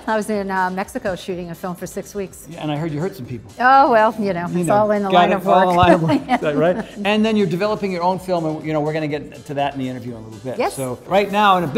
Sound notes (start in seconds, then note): 5.3 Cynthia laughs